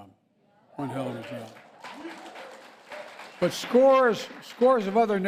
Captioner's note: applause